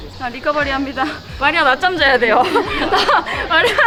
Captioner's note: laughs